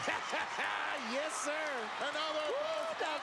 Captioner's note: laugh